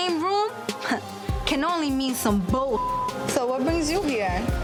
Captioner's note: beep